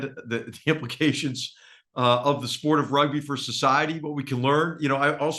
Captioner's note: laugh